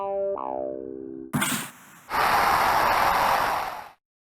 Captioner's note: jingle; slap shot sound and cheers